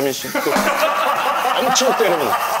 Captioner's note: crack up